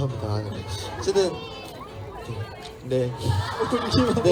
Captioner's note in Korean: 웃음